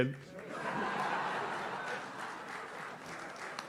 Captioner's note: audience laughs